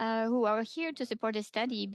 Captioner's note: speaking French